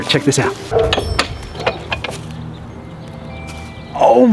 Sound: gate unlocking; whimsical music

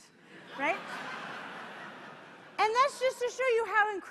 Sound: laughter

